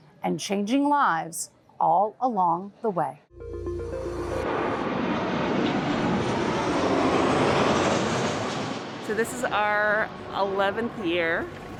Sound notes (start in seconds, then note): 3.3 upbeat music; 3.3 airplane engine roars